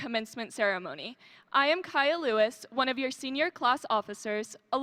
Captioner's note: none